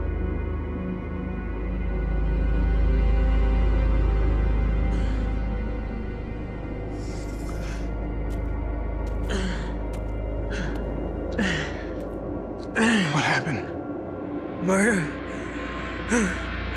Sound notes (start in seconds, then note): 0.0 ominous music; 5.1 man groans; 16.1 groans